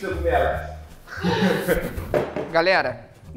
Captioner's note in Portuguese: risadas